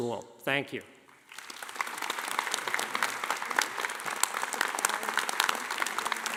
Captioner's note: audience applauding